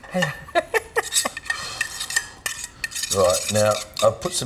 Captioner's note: laughs